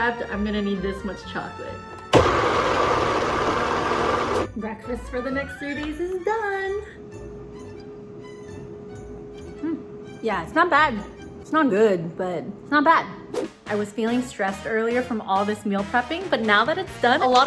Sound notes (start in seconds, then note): 2.0 blender running; 7.5 whimsical music